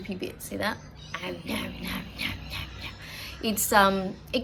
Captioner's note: makes eating 'om, nom, nom' noises